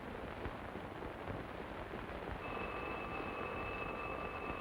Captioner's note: phone ringing